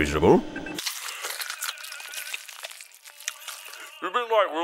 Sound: chewing; mouth full

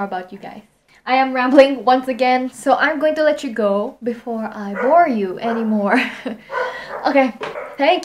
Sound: dog barking in the background

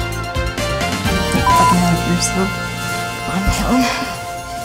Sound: beep

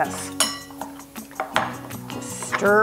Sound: utensils cackling

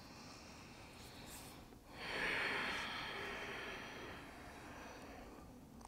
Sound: heavy breathing

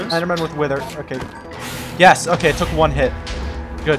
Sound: explosions

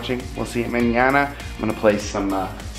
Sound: speaks in a foreign language

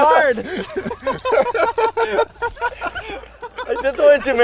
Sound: all laughing

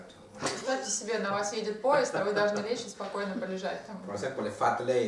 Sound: hahaha

